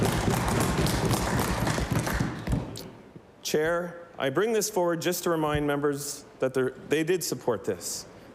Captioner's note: applause